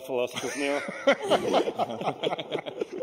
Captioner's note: laughter